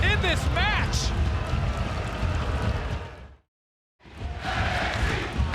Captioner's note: crowd booing